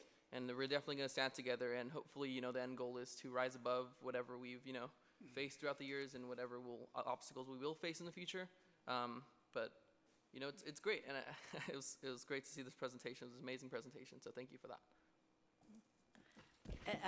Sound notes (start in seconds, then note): 10.6 laughs